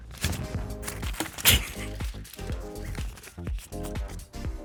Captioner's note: money whooshing